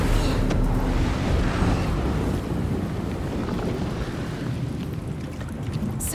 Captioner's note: wind blowing